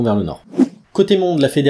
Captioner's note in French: Son de transition